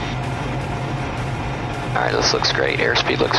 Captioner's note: plane engine de accelerating